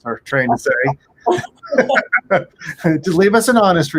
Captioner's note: laughs